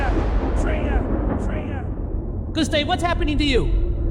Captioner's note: blast